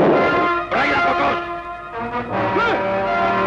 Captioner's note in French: langue étrangère